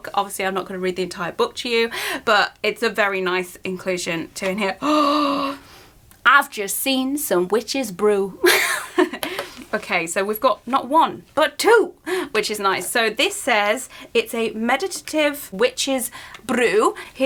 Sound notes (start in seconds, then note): 4.8 gasps; 8.4 laughs